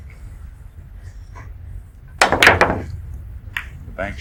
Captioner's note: ball hitting